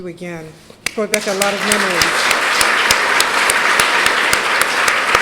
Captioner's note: applause drowns out speaker